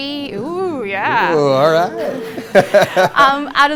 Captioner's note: laughter